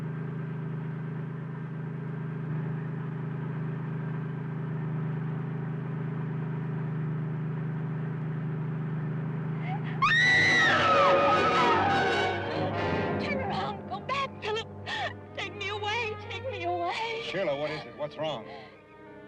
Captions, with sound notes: (Sheila screaming) Turn around, go back, Phillip! Take me away, take me away! - Sheila, what is it, what's wrong?